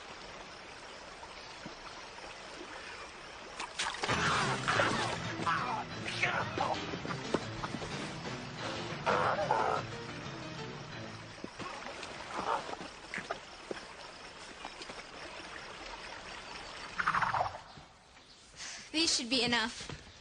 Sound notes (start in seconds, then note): 4.1 exclaims and groans; 7.8 sighs